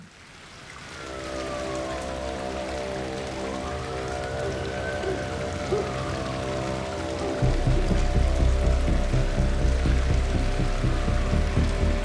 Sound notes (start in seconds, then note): 1.9 rain pattering; 2.9 siren blaring; 4.9 ominous rhythmic music; 5.6 dog barking